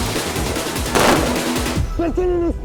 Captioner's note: gunshots